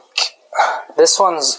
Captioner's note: sigh